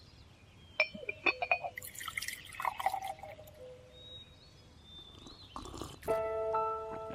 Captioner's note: bird chirping